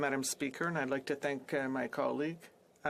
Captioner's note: speaking French